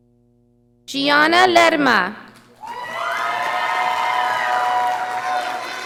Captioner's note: audience applauding